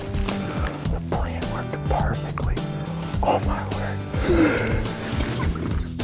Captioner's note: whispering